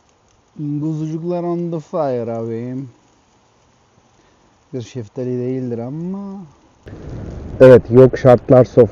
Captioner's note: cypriot Accent